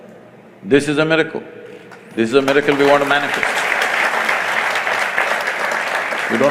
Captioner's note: applause